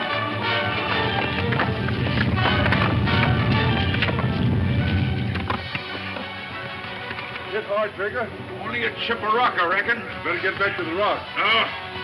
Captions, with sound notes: (rock rumbles) You all right, Trigger? - Only a chip of rock, I reckon. - Gonna get back to the rock.